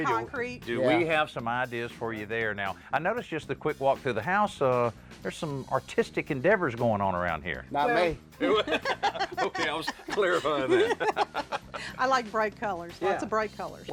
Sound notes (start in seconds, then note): 8.4 laughter; 10.8 laughing